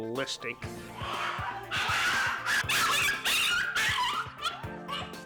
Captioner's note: aggressive barking